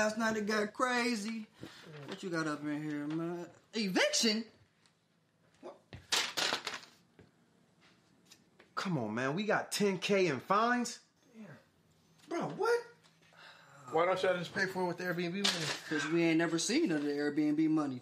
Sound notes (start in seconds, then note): 6.1 paper rustles